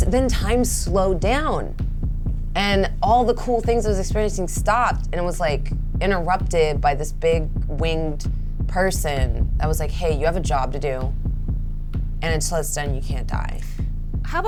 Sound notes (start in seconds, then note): none